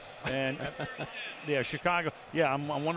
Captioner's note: laughs